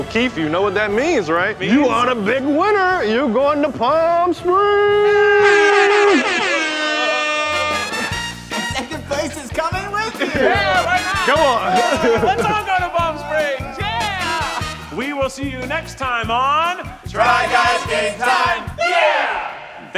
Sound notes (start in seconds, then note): 5.2 party horns blaring; 7.9 upbeat music